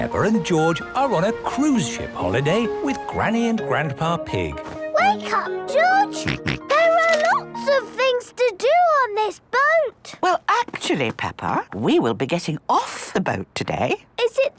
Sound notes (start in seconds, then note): 6.2 George snorts